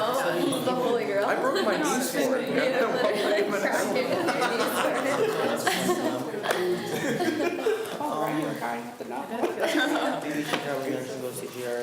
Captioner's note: students talk amongst themselves